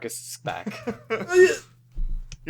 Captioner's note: noise of distress